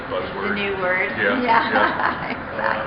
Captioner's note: laughing